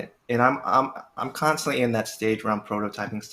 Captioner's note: none